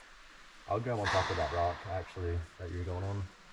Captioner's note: crash